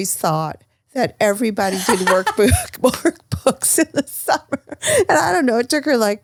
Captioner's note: laughs